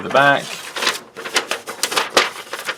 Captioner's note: paper crinkling